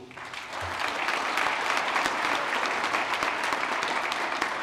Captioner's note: applause